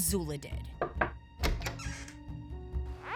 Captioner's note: knocking